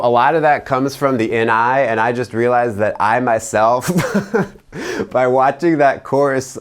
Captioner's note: chuckles